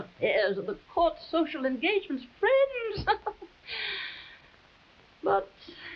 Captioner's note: chuckling